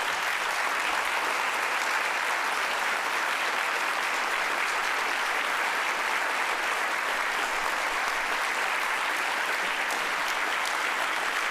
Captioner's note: applause